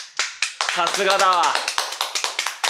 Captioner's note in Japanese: 拍手👏